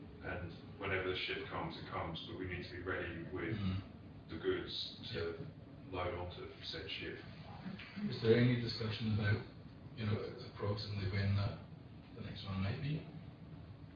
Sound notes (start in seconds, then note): none